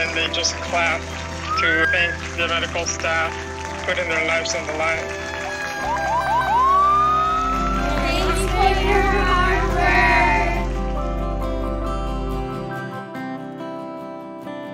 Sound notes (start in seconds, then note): 5.0 sirens wailing; 11.3 gentle music